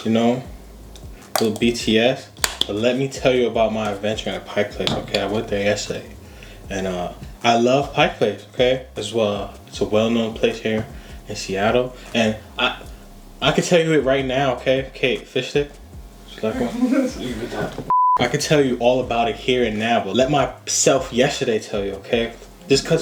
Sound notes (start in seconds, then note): 16.4 woman laughs; 17.9 video cut beep